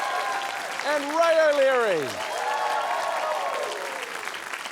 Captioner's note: cheering, applause